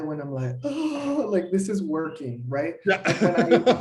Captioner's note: laughter